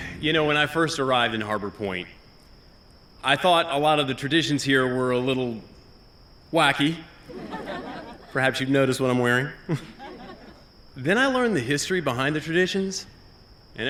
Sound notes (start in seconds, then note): 7.2 laughter